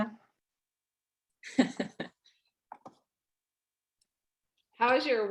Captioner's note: laughs